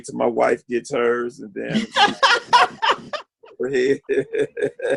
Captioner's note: laughing